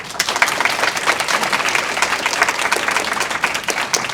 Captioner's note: audience applause